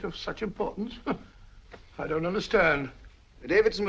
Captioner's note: scoffs